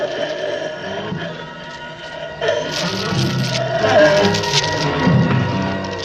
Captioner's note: choking